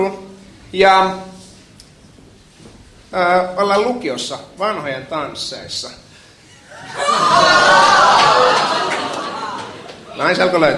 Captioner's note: laughter